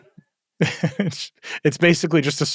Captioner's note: laugh